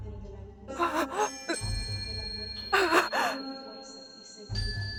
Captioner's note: Cora winces, cries